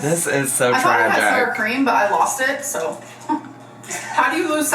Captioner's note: laughs